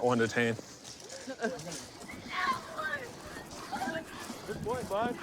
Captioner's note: yelling